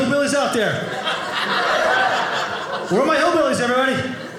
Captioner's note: audience laughing